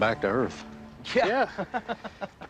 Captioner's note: laughter